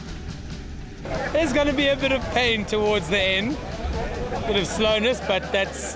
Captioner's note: male Voice